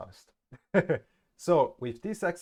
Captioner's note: awakard laughing